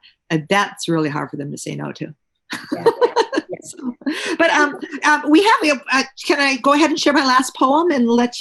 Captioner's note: laughs